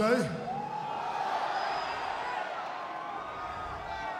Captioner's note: audience cheers